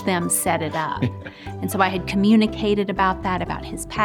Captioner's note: laughing